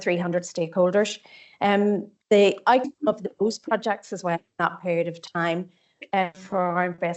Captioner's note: audio distorts 02.35; audio distorts 02.42